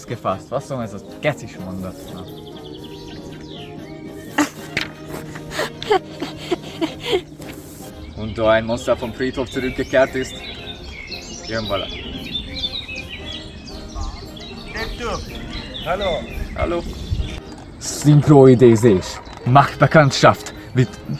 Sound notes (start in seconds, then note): 10.7 people walk